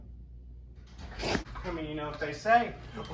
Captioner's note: door opens